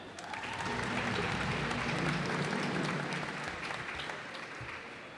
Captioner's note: cheers and applause